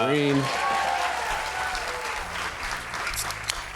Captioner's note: cheers and applause